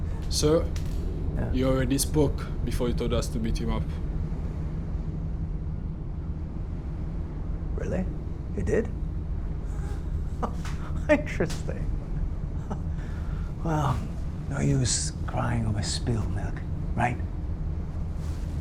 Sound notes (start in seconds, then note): 10.3 Mr. Boll laughing